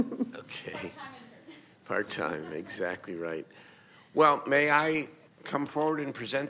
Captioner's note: laughing; laughing